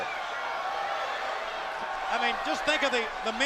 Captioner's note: crowd cheering